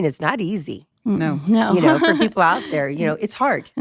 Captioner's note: laughs